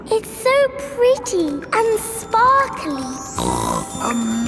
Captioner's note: snorts